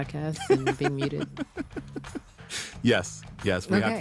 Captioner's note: laughs